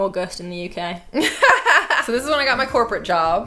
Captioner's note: laughing